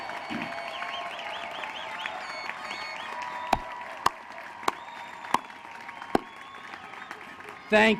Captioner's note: applause